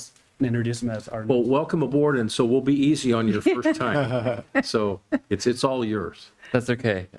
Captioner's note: laughter